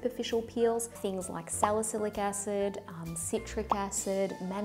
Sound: popping

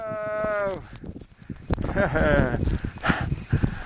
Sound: frozen laugh

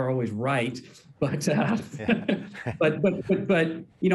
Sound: laughs

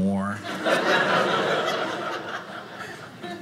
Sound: audience laughing

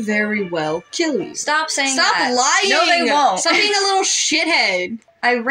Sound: laugh

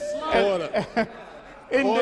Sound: chuckles

